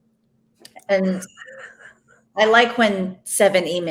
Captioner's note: laughs